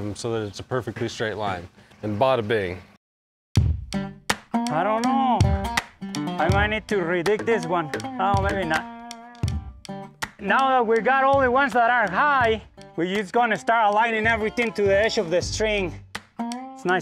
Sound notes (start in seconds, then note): 3.6 upbeat music; 7.9 hammer thuds